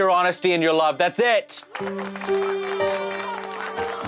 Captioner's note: applauses